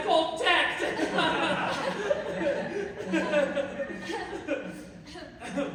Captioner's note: awkward laughter; laughter peters off, even more awkwardly